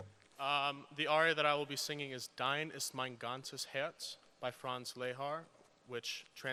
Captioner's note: speaks german